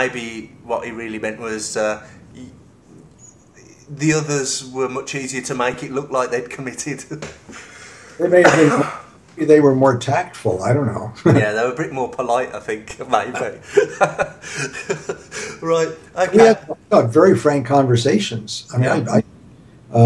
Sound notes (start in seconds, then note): 13.1 laughs